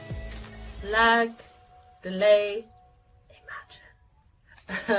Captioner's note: laughs